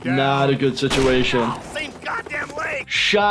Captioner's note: gun fire